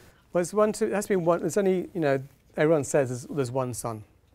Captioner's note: none